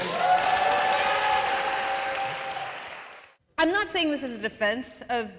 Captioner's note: cheers and applause